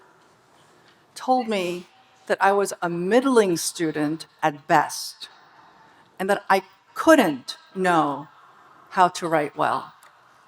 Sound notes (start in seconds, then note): none